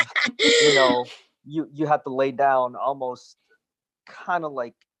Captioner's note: laughing